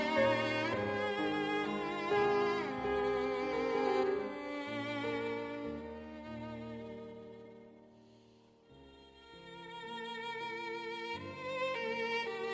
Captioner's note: speaking French